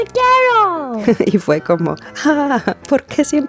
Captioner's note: chuckle